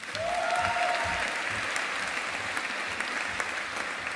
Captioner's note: audience applauding